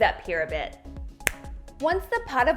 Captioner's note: finger snaps